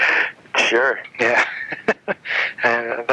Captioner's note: laughing; laughs